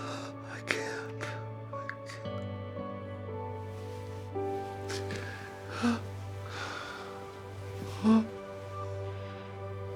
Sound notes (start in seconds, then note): 5.6 Florio exhales; 7.9 Florio moans